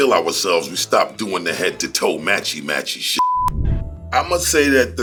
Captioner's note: beep